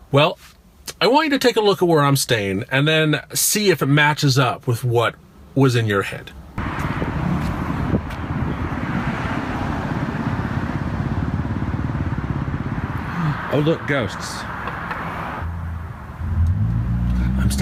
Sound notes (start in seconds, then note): 6.4 wind whipping and distant traffic; 13.0 fake gasp; 14.8 flatly